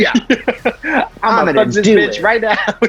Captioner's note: laughs